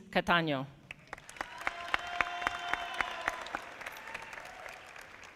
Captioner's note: audience applauding